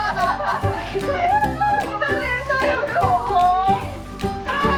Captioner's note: laughs so hard it sounds like a goose